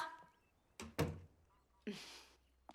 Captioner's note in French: la porte se ferme